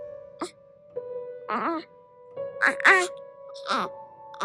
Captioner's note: baby cooing